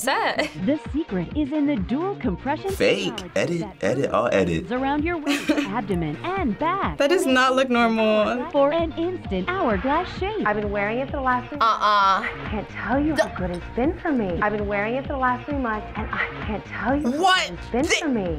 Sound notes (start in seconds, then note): 0.4 voice-over; 4.8 voice-over; 8.2 voice-over; 13.1 gagging